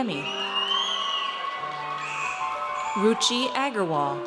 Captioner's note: audience cheers